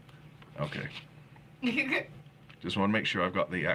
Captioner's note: laughing